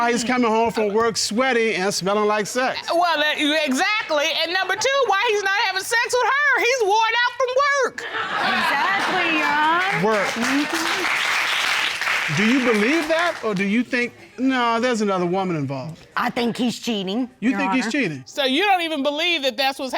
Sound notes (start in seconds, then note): 8.0 audience laughing; 11.0 audience applauding